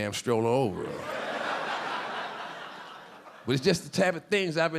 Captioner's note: audience laughing